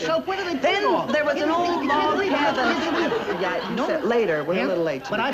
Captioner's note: audience laughing